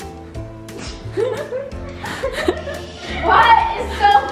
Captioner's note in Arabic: الكل يضحك